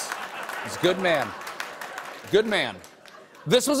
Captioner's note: applause